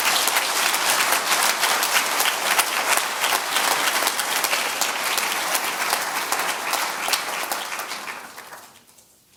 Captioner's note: audience applause